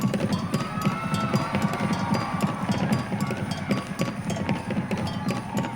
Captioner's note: audience cheering